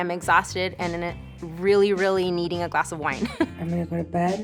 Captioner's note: giggles